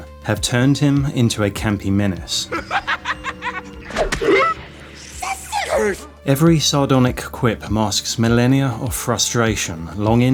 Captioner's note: laughing